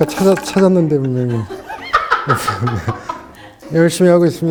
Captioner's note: haha